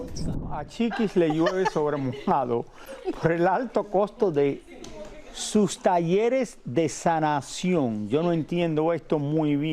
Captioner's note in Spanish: risas